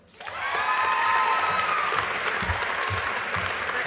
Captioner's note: audience applauding